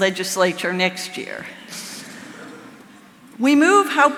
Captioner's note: audience laughing